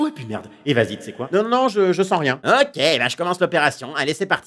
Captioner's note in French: à haute voix